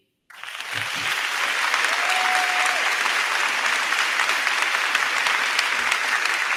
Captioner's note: crowd cheering; crowd clapping